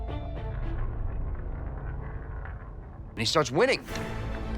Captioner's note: tense suspenseful music; roulette wheel rattling